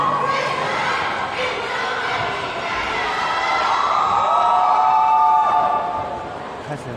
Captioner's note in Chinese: 歡呼